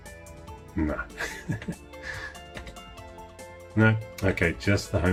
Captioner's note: laughing